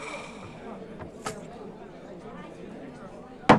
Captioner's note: sighs; indistinct chatter